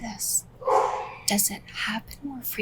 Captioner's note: dog barks?